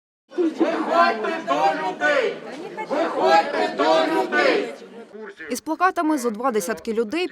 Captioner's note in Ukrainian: Кричать гуртом